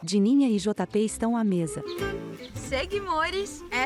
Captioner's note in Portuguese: Pássaros